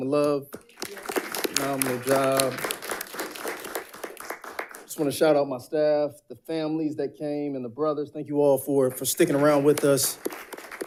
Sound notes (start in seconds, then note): 0.5 audience applauding; 4.2 applauds; 10.6 audience applauding